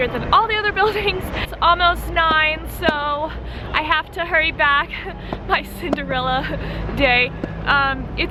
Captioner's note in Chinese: 笑声